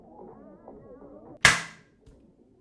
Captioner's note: the lid clicks open